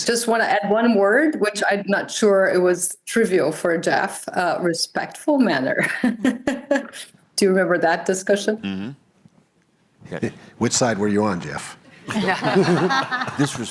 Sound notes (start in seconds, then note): 5.8 laughs; 12.0 laughter